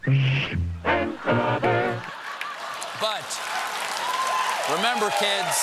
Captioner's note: cheers and applause